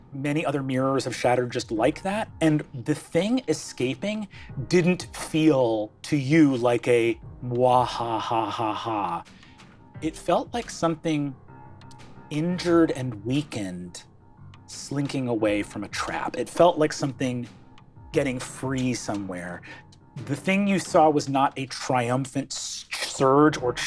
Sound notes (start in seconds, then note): 6.1 imitates evil laugh